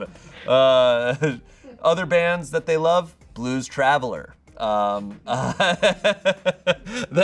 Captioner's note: laughs